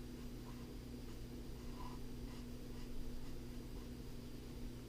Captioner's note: pen writing on paper